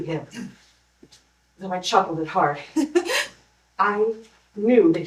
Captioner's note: chuckle, stifled